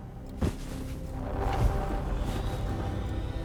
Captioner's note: bed rustling